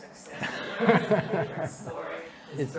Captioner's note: laughs